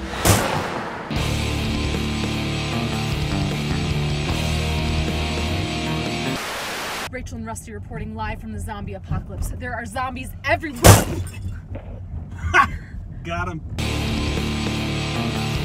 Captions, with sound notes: (car thuds) (intense rock music) - Rachel and rusty reporting live from the zombie apocalypse. There are zombies everywhere. (thuds) - Hah! Got 'em.